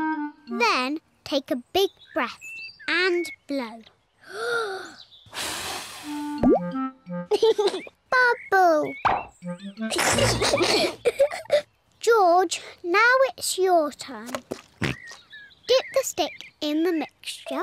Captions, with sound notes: Then, take a big breath and blow. (TAKES BIG BREATH AND BLOWS) (LAUGHS) Bubble! (BOTH GIGGLE) -George, now it's your turn. -(OINKS) Get the stick in the mixture.